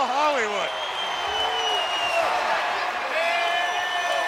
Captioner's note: audience cheering